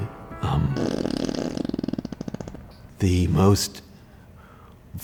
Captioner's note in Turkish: osuruk sesi